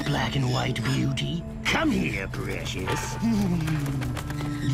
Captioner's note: wings flutter